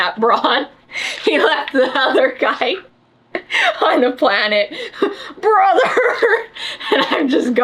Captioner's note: laughs